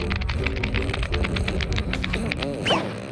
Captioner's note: saddle pops; crashes